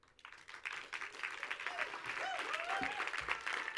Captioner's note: audience applauds